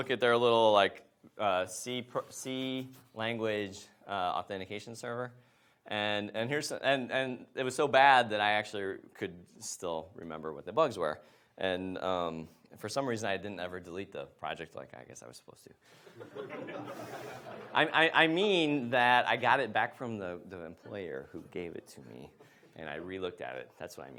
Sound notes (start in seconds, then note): 16.1 audience laughs